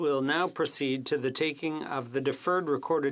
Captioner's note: speaking French